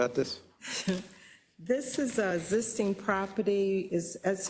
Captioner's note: laugh